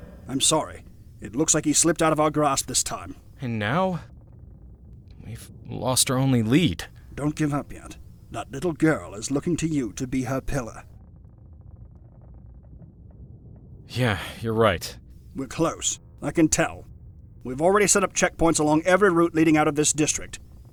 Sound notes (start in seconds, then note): 7.5 whispering; 14.1 whispering